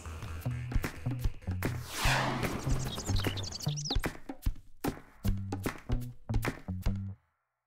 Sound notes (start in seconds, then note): 2.4 birds chirping